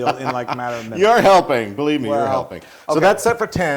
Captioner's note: laugh